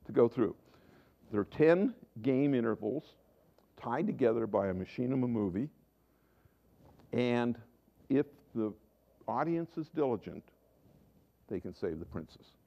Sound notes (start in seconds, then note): none